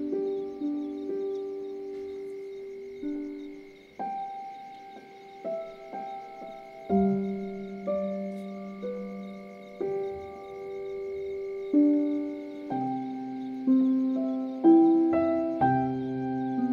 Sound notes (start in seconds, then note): 5.6 cricket chirping sounds in the background